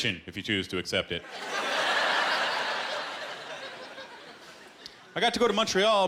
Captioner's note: laughter